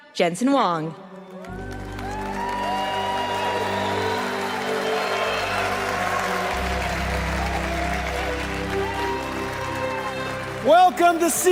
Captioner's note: Applause; 掌聲